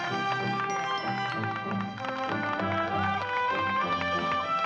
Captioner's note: audience applauding